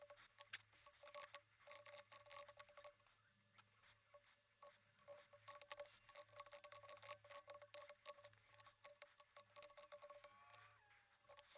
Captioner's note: typing